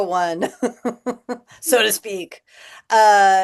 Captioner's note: laughter